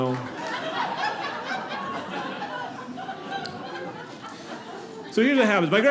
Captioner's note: audience laughing